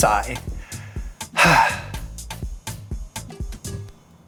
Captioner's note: he sighs